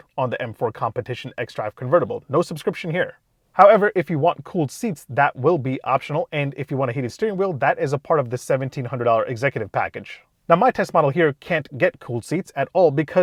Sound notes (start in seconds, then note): none